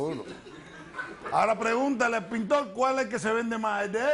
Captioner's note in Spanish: Risas